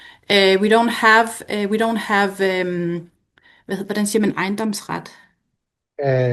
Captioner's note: foreign language